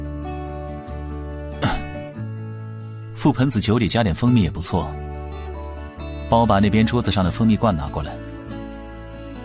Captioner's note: cough